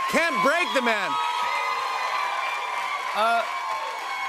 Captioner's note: cheers and applause continue